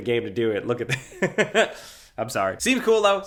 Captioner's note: laughs